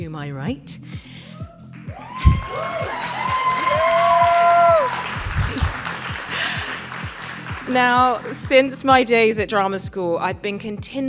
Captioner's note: applause